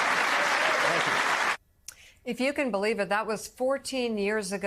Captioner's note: applause